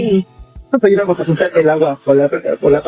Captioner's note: spanish dialogue continues